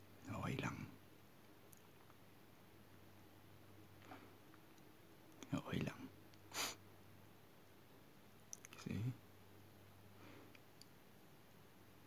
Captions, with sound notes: That's okay. That's okay, (sniff) Because